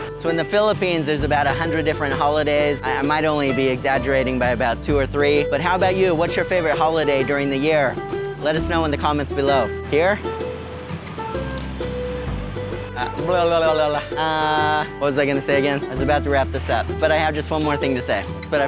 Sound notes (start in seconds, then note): 11.1 gentle music; 13.3 mouth warbles